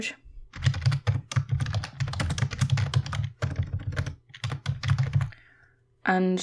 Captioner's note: typing noise